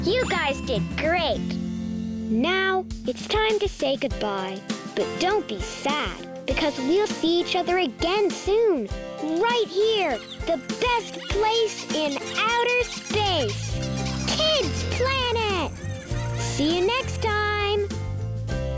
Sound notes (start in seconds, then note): 15.6 children laughing